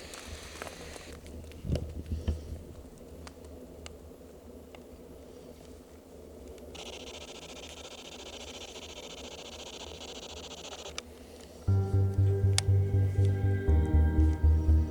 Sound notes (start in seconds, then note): 6.6 static crackling; 11.7 anticipatory music